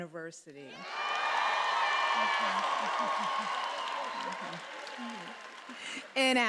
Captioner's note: attendees applauding and cheering